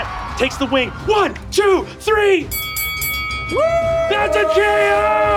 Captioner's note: bell dings